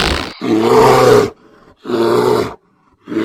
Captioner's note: floor creaks; roars; growling